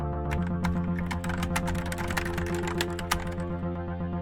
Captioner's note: keyboard clacks